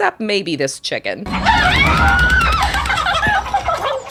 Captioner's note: screams